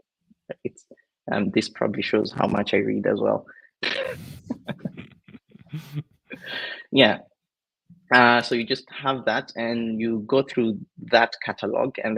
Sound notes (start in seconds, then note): 3.8 both chuckling